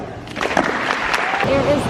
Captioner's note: applause